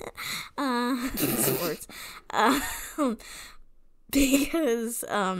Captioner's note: giggles